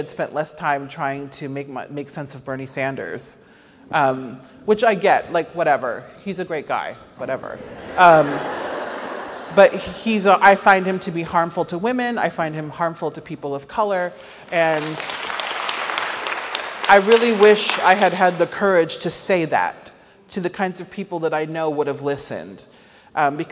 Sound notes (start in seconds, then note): 7.6 audience laughs; 14.4 audience applauds